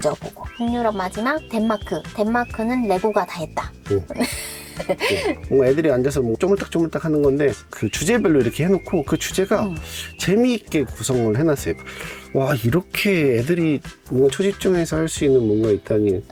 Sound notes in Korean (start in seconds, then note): 4.1 웃음